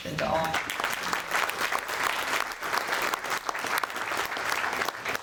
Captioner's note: audience applauding